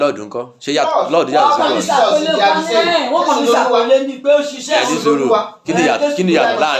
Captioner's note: talking